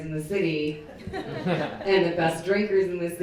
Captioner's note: people laughing